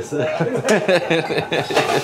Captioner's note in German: Gelächter